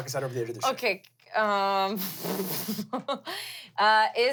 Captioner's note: laughs